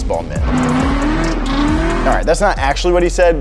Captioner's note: engine roaring